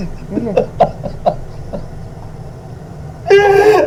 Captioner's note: Miles sobs